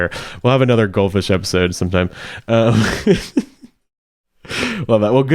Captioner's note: laughs